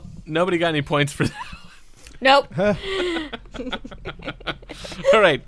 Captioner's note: laughter